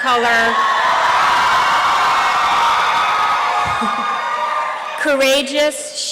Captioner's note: applause and cheering